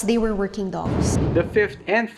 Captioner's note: whooshing